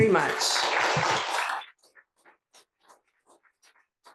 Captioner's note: attendees applauding